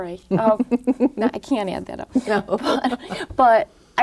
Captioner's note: Marian laughing